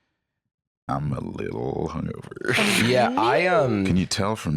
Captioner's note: laughs